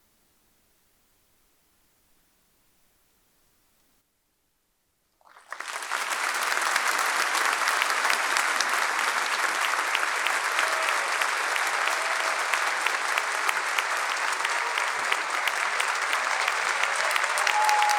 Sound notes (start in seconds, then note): 5.1 audience applauding; 5.1 audience cheering